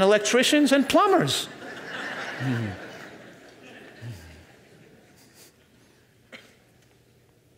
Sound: audience laughs; laughs

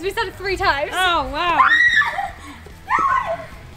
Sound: squealing

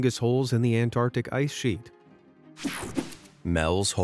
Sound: logo whooshing

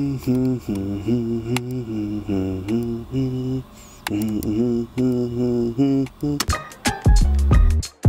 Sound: humming

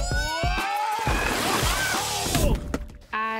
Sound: splashing; thud

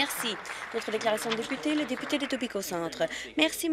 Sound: some Applause

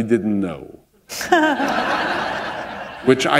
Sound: laughter

